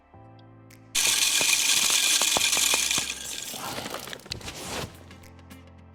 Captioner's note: Deer Feeder spraying corn